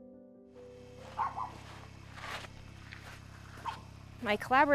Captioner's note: dog barking